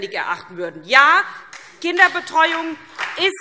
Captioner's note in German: Beifall SPD